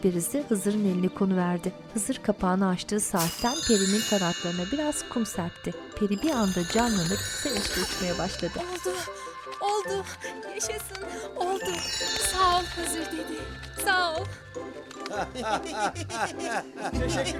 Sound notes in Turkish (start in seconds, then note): 3.2 Dökülme sesi; 6.8 Kanat sesleri; 15.0 Gülme sesleri